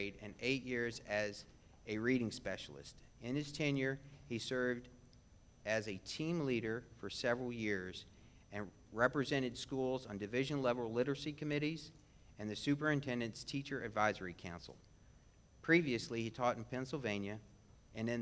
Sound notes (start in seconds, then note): none